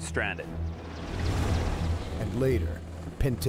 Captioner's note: voiceover